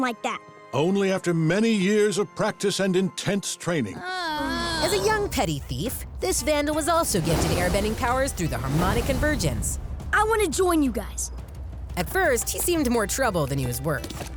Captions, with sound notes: Only after many years of practice and intense training. [groaning] As a young petty thief, this vandal was also gifted airbending powers through the Harmonic Convergence. I want to join you guys. At first he seemed more trouble than he was worth.